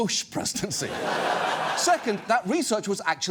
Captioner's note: studio audience laughs